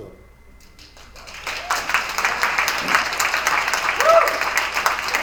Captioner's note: attendees applauding